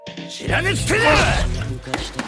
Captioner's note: punch; detective collapses, groans in pain